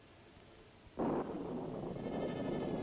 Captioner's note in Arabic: هدير الرعد; موسيقى مشوقة